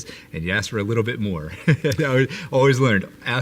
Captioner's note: laughs